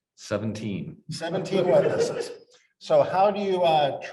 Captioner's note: audience laughs